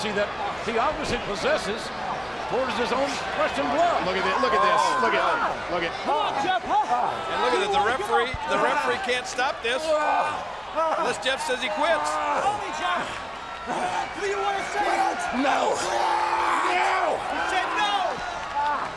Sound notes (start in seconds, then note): 10.8 Jeff groaning; 13.6 Matt screaming